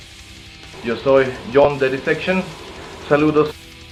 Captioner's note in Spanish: en español